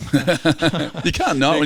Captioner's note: laughing